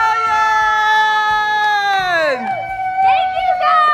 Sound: shouting

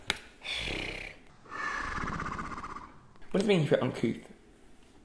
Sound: exhaling

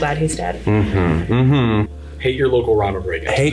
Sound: grunts in agreement

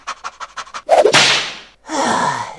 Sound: whip cracks

